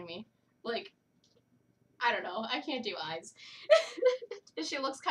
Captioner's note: laughter